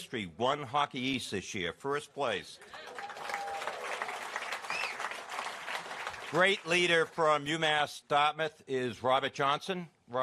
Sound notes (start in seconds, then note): 2.6 applause